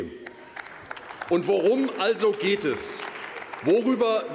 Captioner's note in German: Beifall